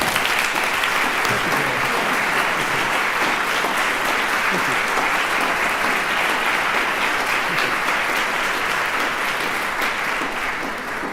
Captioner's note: applause